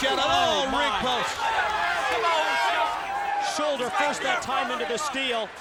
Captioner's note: applause